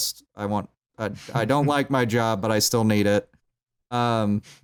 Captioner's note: chuckles